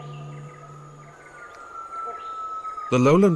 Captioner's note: birds chirping